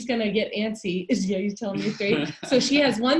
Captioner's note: laughing